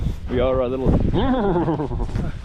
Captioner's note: speaks in foreign language; shudders